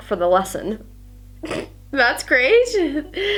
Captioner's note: sniggers